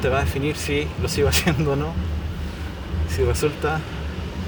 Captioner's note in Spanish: risas